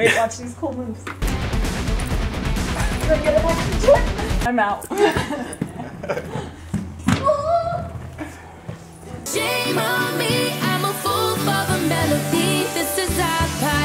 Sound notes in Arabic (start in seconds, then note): 4.9 يضحك أبي وأمي